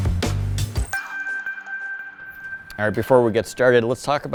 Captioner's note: electronic chime